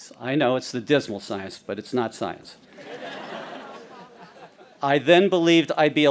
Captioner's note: audience laughing